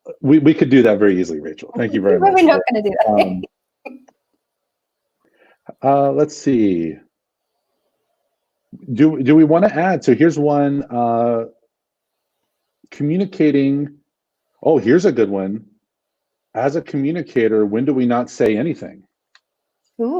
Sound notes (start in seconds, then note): 2.9 laughter